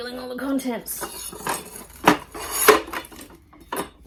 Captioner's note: table legs roll and bump inside small folding table